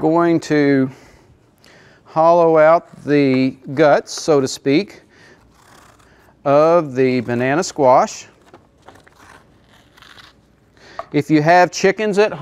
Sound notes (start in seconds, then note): none